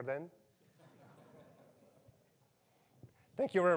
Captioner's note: audience chuckles